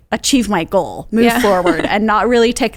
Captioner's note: chuckles